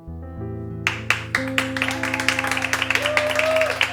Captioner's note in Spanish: Aplausos